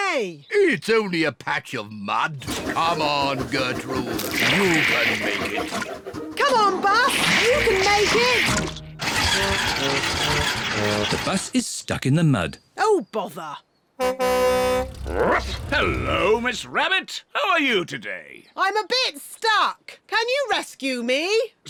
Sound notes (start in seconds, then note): 9.3 engine stalls; 14.0 honks horn